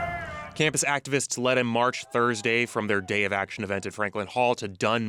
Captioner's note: crowd chanting